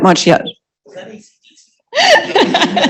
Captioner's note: laughter